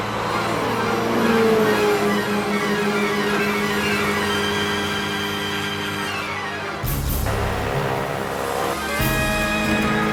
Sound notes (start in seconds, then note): 0.0 engines revving; 1.4 dramatic music